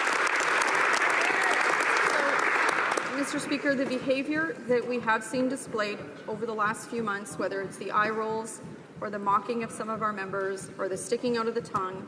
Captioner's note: some Applause